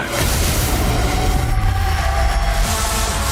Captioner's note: electronic distortion